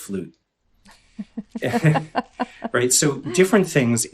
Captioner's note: laughing